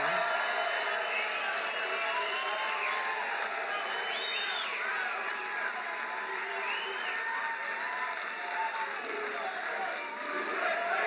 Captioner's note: applause